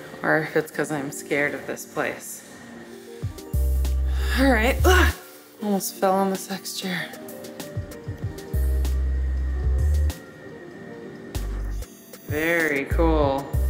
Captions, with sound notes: or if it's cause I'm scared of this place. All right, (exclaims loudly) almost fell on the sex chair. Very cool